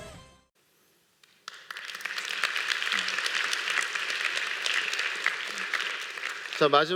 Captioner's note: applause